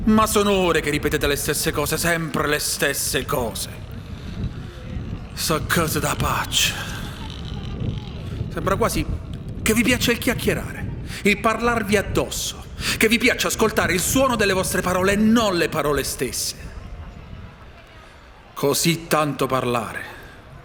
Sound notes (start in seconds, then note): 6.3 in Foggiano dialect